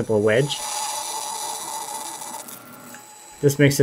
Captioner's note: machine whirs